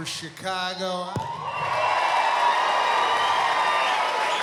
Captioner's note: cheering